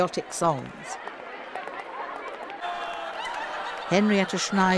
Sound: people cheering

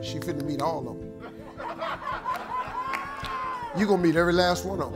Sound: congregation laughs

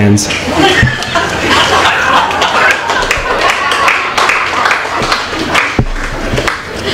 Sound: applause

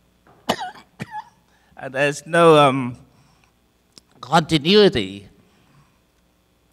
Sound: coughing

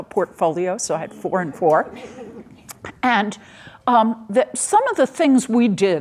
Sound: audience laughing

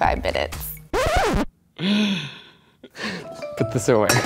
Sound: laughs

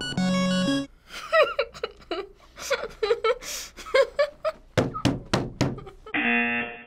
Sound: laughs; buzzer rings

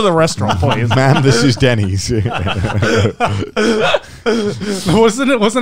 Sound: laughing

